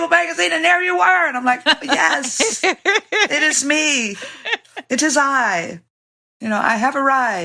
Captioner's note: laughter